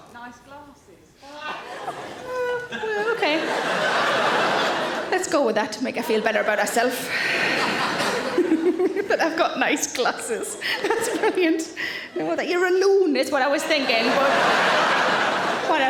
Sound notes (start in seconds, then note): 3.8 audience laughing; 7.0 laughs; 13.5 audience laughing